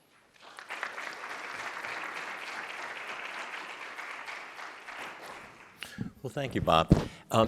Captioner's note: applause